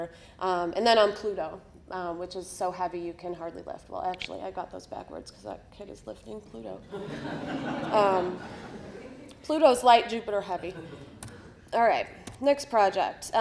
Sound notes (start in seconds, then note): 6.9 audience laughter